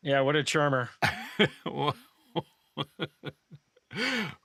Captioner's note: laughing